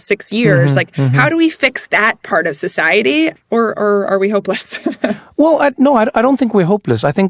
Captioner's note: laugh